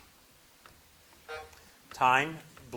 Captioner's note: buzzer buzzing